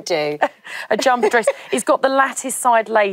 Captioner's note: laughs